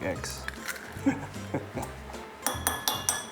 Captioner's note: chuckles